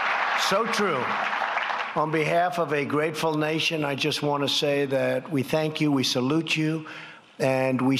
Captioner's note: applause